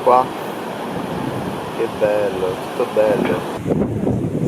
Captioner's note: speaks Italian